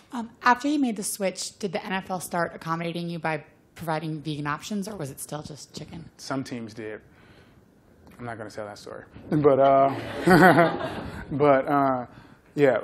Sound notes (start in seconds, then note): 9.8 laughter